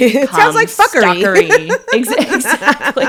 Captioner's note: laughs